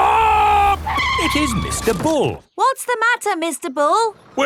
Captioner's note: tires screeching